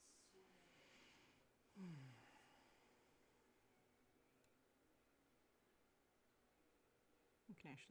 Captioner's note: deep sigh